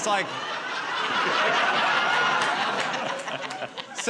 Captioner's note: laughter